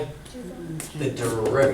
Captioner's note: voiceover